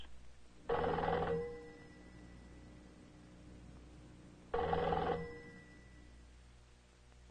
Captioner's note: phone ringing